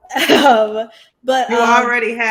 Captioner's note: laughs